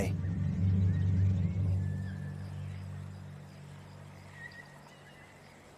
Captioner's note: birds and insects chirping